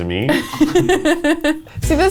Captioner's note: laughs